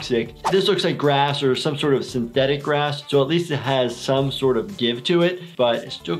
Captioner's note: none